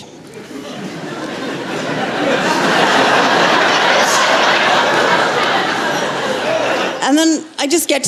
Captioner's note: laughter